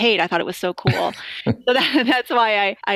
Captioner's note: short laughter